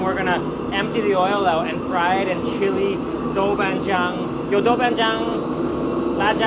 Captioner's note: foreign language